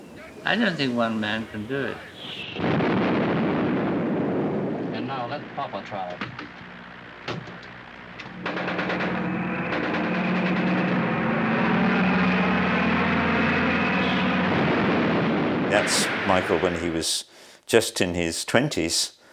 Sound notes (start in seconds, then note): 2.3 bomb explodes; 8.3 machine gun fire